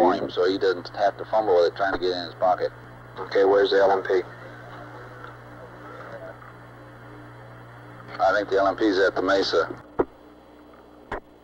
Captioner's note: mission Control Audio